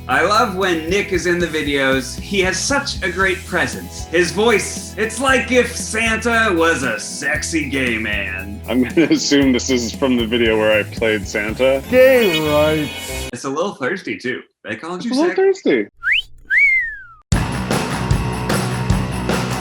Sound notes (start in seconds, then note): 16.0 whistles; 17.3 rock music